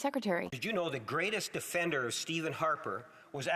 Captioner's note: speaking French